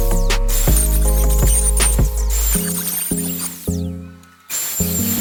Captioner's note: water running